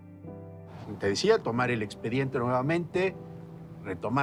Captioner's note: in Spanish